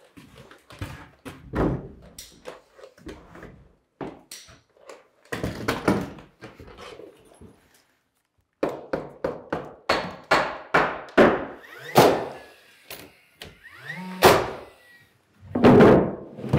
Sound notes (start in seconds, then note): 8.6 hammering